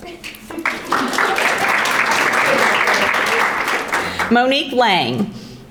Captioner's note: audience applauding